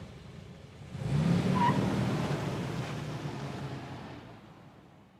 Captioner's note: car engine revving